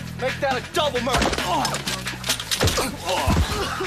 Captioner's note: groaning